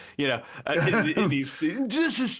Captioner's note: laughing